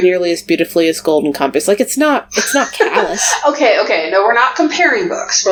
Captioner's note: laughs